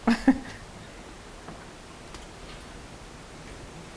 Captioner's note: chuckles